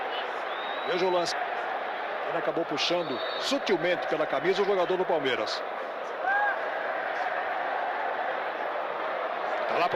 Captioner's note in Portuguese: aplausos